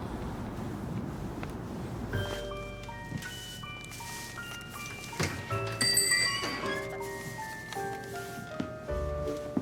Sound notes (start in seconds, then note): 2.2 tinkling music; 5.6 bell